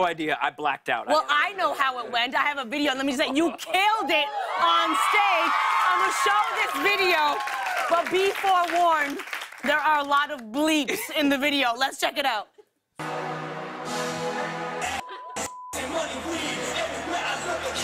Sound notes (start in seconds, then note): 4.3 cheers and applause